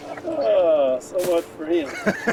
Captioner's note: laughing